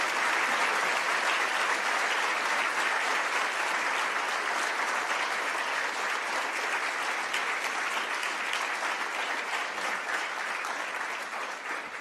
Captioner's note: applause